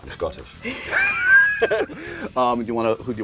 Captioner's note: laughter